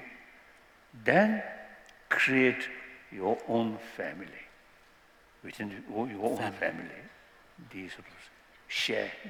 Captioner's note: non-english